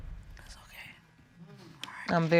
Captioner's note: whispers